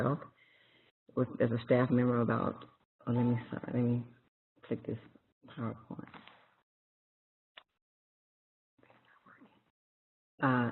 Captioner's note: pause